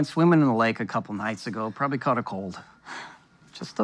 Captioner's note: she sighs